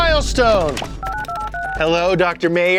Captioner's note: phone dial beeping